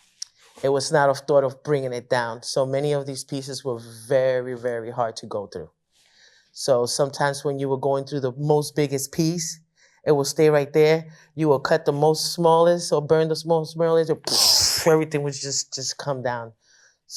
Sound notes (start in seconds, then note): 14.3 imitates explosion